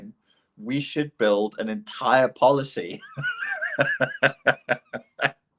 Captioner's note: laughs